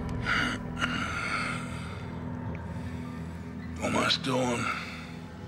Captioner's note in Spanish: pájaros trinando; Zadrim gimiendo